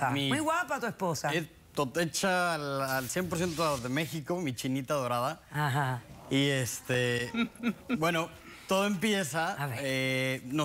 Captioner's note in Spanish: exclamaciones